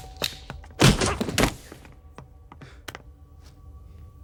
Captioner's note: stick whacks